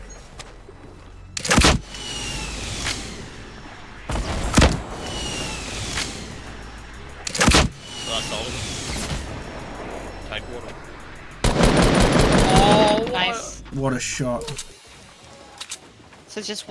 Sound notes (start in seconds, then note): 2.2 RPG firing; 4.0 explosion; 4.0 RPG firing; 11.4 gunfire